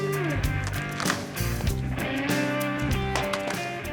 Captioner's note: wood crumbling; thud